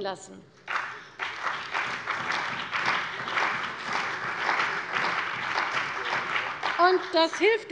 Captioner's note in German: Beifall bei der CDU und dem BÜNDNIS 90/DIE GRÜNEN